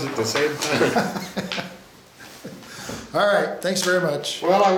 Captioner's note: laughs